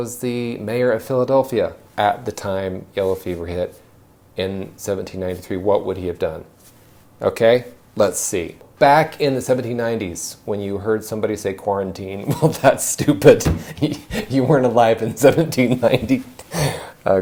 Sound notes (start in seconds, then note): 12.3 laughs